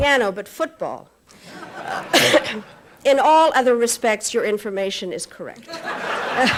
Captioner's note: laughter